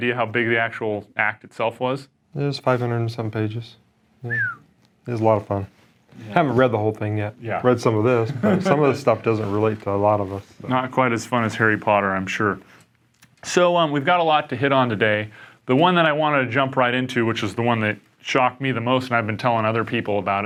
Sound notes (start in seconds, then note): 4.2 whistles